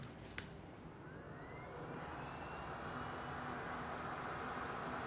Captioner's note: heat gun whirring